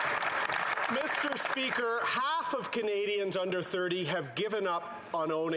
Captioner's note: some Applause